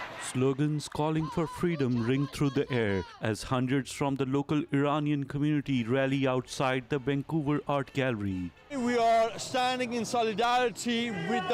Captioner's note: chanting